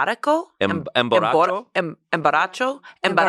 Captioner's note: speaks foreign language